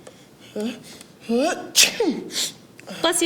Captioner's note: sneezes